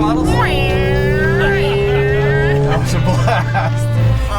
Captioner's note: mimicking car noises